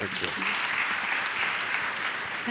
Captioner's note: applause